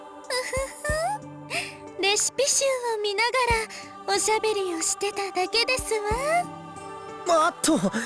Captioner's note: giggle